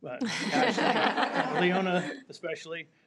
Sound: people laughing

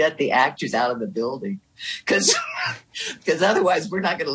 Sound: laughing

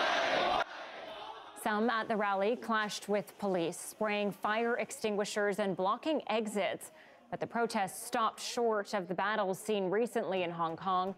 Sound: crowd chanting

